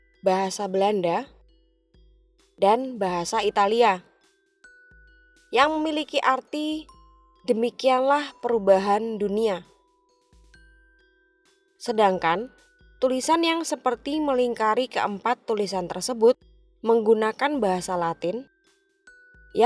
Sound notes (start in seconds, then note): 4.5 Italian